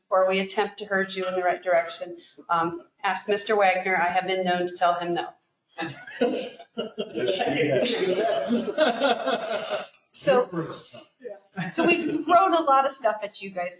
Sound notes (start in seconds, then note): 5.8 laughter